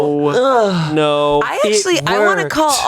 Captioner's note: groans